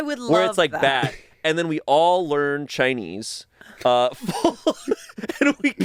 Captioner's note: laughs